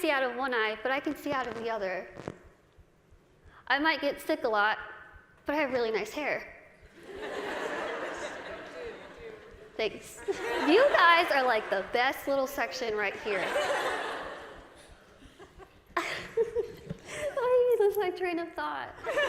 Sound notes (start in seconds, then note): 7.0 cười